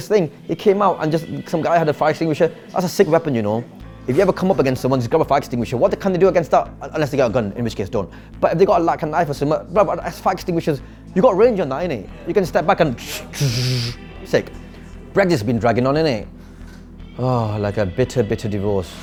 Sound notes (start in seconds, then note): 13.0 makes fire extinguisher noise; 16.6 sighs